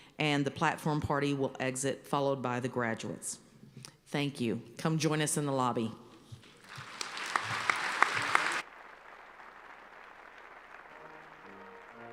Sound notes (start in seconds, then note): 6.6 applause